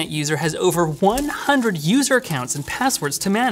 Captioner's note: paper flutters